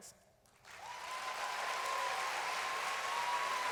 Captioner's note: applause